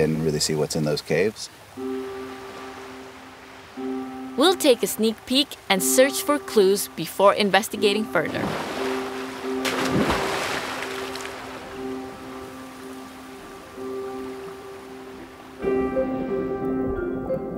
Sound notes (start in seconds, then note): 8.6 water splashing; 11.5 gentle music